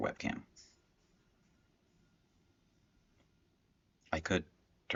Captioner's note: silence